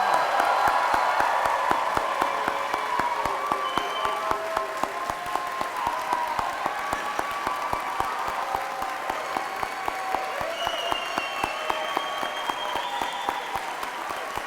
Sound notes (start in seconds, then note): 2.2 cheers and applause